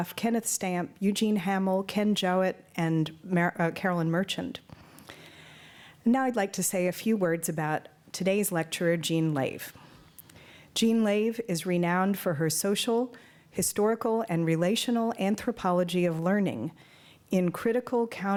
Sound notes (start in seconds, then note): none